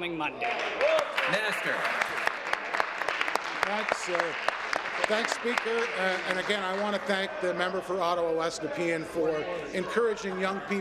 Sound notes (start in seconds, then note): 3.2 applause